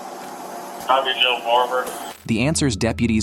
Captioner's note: radio chatter